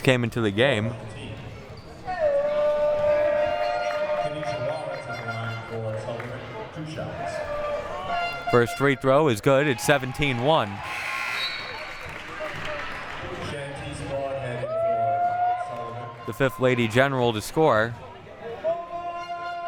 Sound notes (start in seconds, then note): 11.2 buzzer buzzing